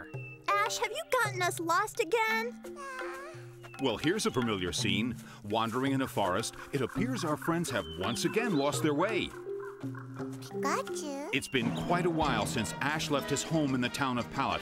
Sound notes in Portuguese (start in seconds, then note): 2.8 Pikachu suspirando